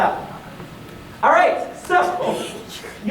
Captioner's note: laughing